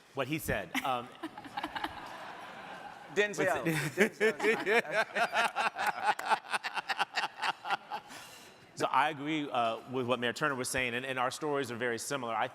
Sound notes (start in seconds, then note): 2.1 crowd laughing; 4.5 mayors laughing